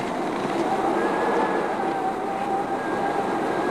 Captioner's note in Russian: none